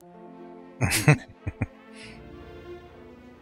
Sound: chuckling

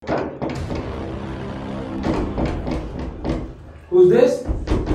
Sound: door knocking

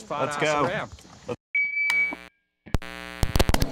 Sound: microphone feedback; rock music on radio

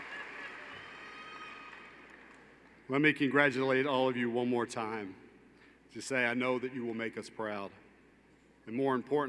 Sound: cheers

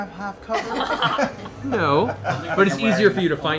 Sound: laughter

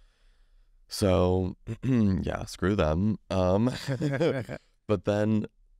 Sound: laughs

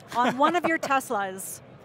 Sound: laughs

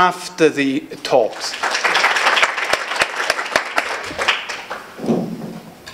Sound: audience applauding

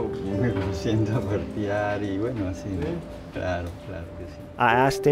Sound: speaking in foreign language

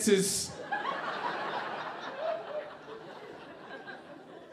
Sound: audience laughing

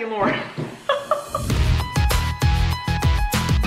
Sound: laughs

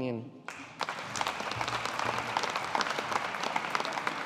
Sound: audience applauding

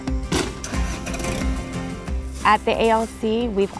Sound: engine starting

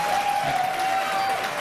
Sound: applause

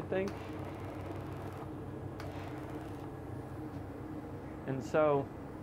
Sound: clicks and whirs

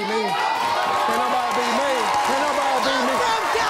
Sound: audience cheers

